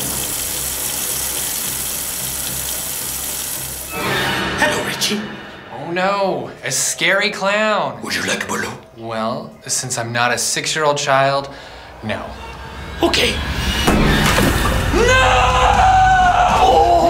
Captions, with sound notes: [faucet running] [dramatic music] Hello Richie. Oh no, a scary clown. Would you like a balloon? Well, since I'm not a six year old child, no. Okay. [pop] No!